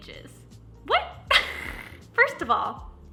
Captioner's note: laughing